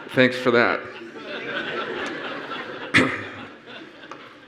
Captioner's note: laughs